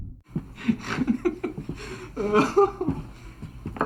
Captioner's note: laughing